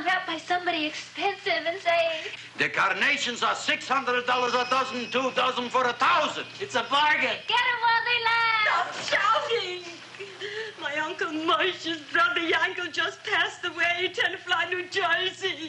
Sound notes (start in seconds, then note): 4.4 doorbell jingling; 13.8 sobs